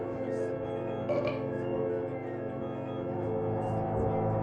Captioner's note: target belching